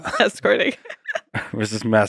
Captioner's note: laughing; laughs